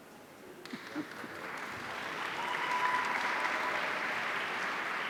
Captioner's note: audience applauding